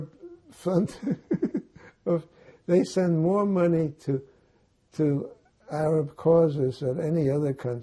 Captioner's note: laughing